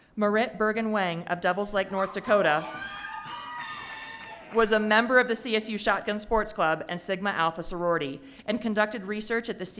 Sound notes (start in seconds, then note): 2.9 audience member shouting